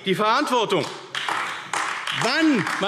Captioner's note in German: Beifall AfD